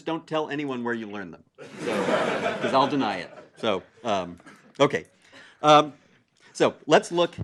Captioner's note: laugh